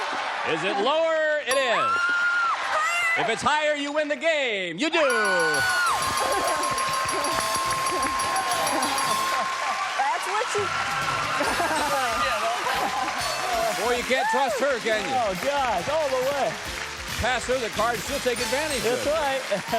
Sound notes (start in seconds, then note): 6.6 applause, theme music; 12.6 laughs